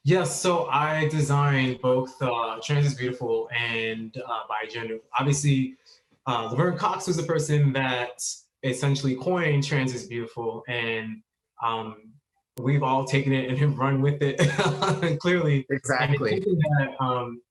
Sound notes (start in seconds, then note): 12.7 laughs